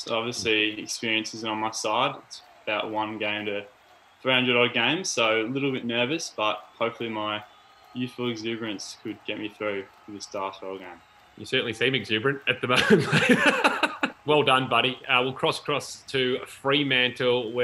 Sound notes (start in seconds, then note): 12.6 laughs